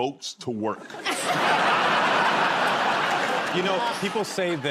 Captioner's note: laughter